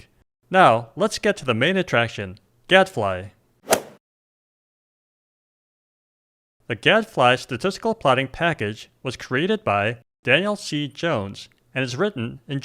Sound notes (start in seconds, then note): 3.6 golf swing sound effect